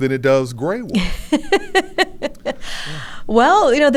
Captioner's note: laughs